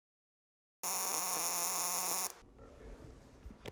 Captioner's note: welding buzz